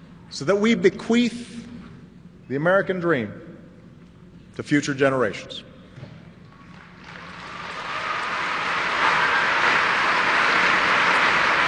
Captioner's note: applause